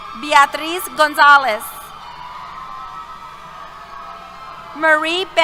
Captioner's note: cheers